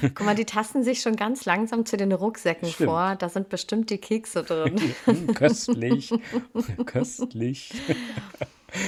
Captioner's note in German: gelächter; gelächter